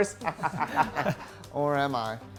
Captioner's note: Tristan chuckles; Elliot laughs